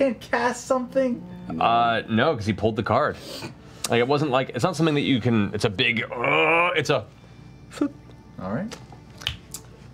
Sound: grunts

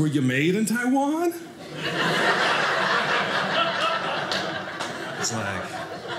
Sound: audience laughing

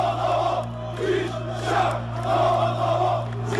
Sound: crowd Chanting

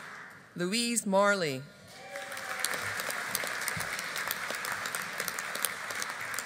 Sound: audience applauding

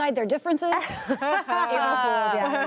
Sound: laughter

